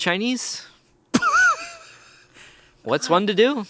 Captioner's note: laughs